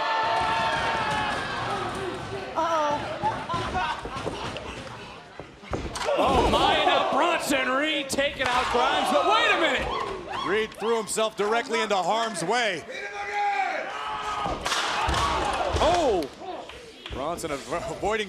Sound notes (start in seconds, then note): 13.6 crowd chatter